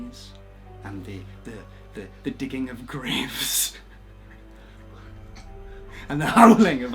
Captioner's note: laughs